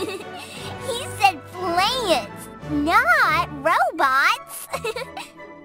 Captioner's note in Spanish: risas